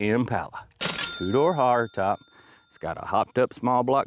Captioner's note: bell Ringing